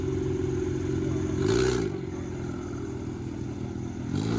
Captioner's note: engine revving